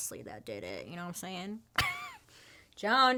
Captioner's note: laughs